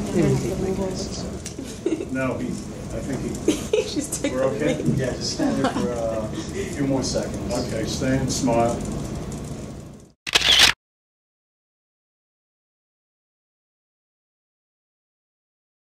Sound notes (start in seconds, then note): 1.8 giggling; 10.2 camera clicks